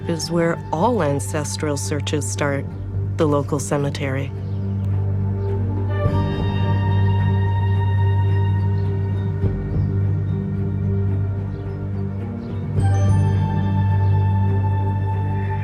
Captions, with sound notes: is where all ancestral searches start, the local cemetery. (ominous music continues) (birds chirping)